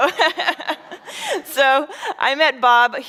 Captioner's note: chuckles